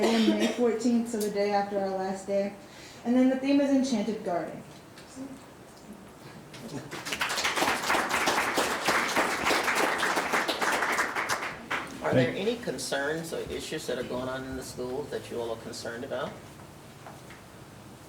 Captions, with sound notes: May 14th of the day after our last day. And then the theme is enchanted garden. (audience clapping) - Are there any concerns or issues that are going on in the schools that you all are concerned about?